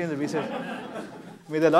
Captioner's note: laughter